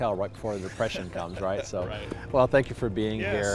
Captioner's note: laughing